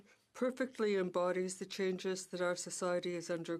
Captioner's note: speaking French